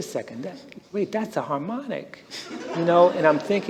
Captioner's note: laughter